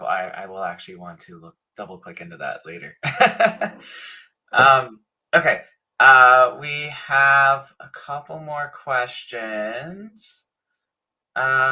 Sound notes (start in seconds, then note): 3.0 laughs